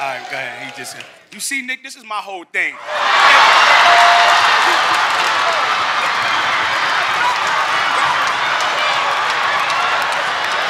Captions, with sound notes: Ah, dang, he just. You see, Nick, this is my whole thing. (audience laughs) (audience cheers)